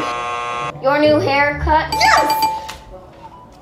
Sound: buzzer buzzing; bell dinging

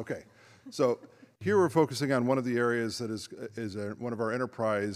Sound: laughter

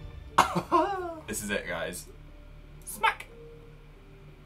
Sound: lol that laugh

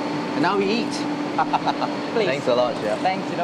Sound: laughs

